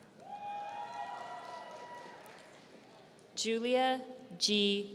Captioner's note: audience cheering